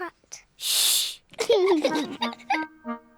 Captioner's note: both laugh